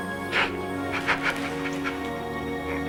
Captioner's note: sobbing